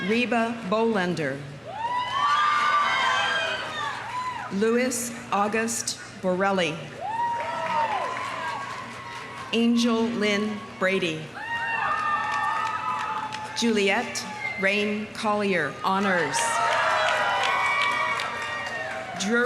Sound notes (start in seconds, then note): 1.7 audience cheering; 2.2 audience applauding; 7.0 audience cheering; 7.1 audience applauding; 11.3 audience cheering; 11.4 audience applauding; 16.0 audience cheering; 16.5 audience applauding